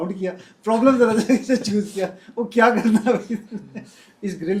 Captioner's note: laughter